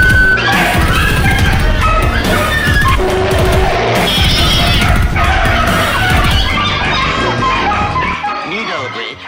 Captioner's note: dog & Cats Bark & Meow